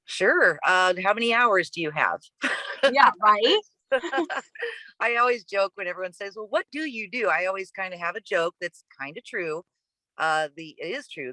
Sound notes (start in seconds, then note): 3.9 chuckles; 3.9 laughs